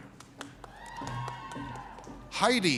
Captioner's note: audience cheers